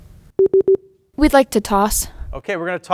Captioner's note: beep